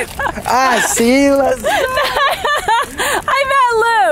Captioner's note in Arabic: يضحك